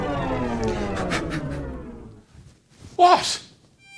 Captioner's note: loud thud; blowing sounds